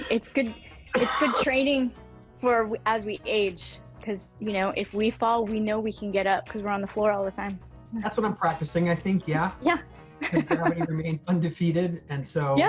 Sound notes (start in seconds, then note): 10.2 laughs